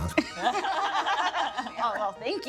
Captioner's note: laughing